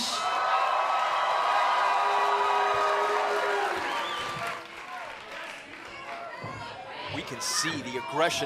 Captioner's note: crowd cheering